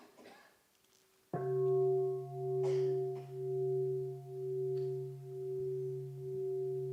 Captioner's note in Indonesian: Bunyi genta